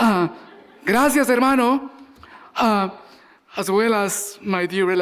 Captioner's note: audience laughing; speaking Spanish